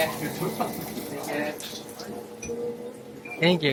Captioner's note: laugh